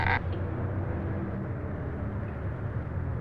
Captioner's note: door creaks